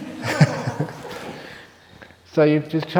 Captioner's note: laughs